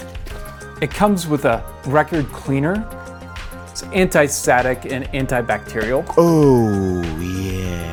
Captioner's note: silly voice ohhh yeah